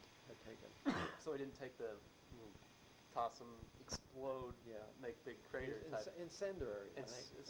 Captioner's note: coughs